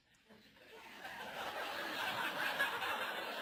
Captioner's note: laugh